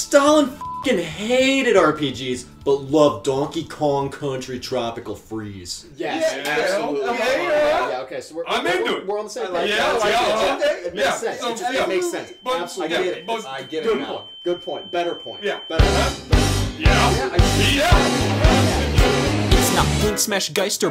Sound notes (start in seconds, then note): 0.6 beep; 9.4 all chattering; 15.8 intense rock music